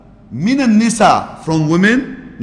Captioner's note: Arabic